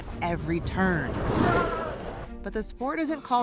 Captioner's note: grito